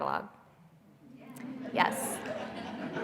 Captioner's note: audience agreeing